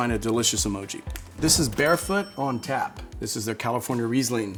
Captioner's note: bell dinging